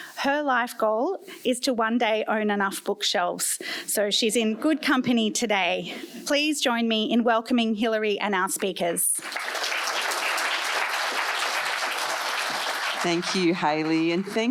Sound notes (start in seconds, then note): 9.2 applause